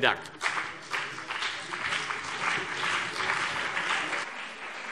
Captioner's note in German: Beifall CDU und BÜNDNIS 90/DIE GRÜNEN